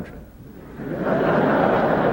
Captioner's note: laughter